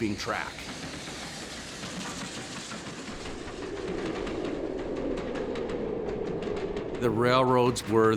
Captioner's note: train chugging